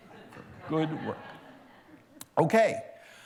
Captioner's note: laughter